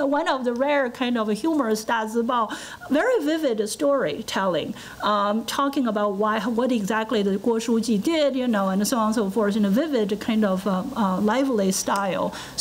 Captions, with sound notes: one of the rare, kind of humorous dazibao. Very vivid story telling, talking about what exactly the (foreign language) did and so on, so forth in a vivid, lively style.